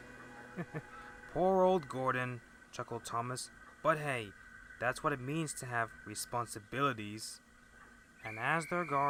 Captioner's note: chuckle